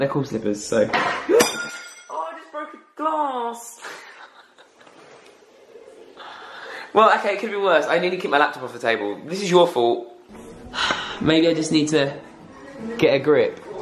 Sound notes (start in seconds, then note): 0.8 dishes crash; 3.8 laughing